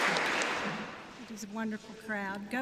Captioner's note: applause